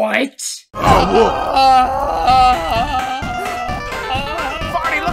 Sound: Album screaming; Album screaming

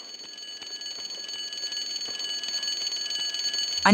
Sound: loud alarm

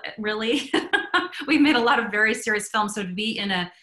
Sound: laughs

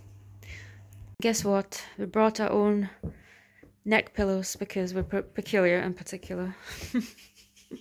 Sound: laughs

